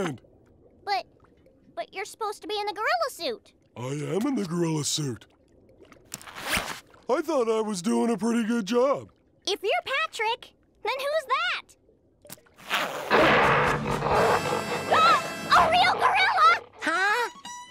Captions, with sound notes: But... but you're supposed to be in the gorilla suit. I am in the gorilla suit. I thought I was doing a pretty good job. If you Patrick, then who's that? [grunting] [gasping] A real gorilla! Huh?